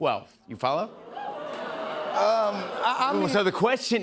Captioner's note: audience oohs